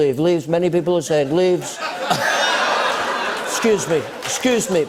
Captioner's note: laughter